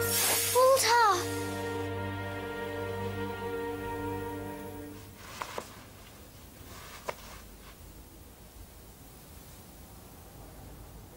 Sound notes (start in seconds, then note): 2.9 magical shimmering